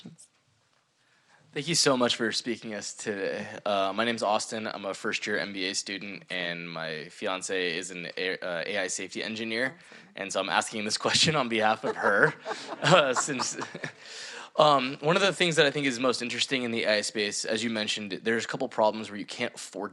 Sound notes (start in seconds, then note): 13.9 everyone laughing